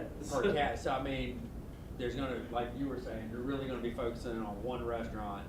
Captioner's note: voiceover